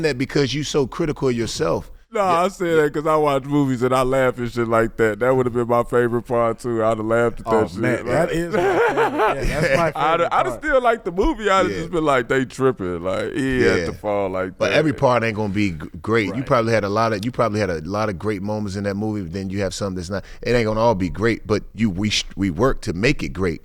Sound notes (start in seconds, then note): 7.6 laughs